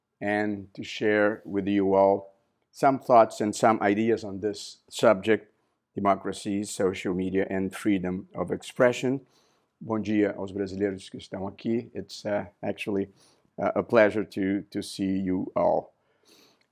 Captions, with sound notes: and to share with you all some thoughts and some ideas on this subject-- democracy, social media, and freedom of expression. [NON-ENGLISH SPEECH] It's actually a pleasure to see you all.